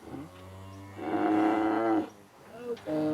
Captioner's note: cows lowing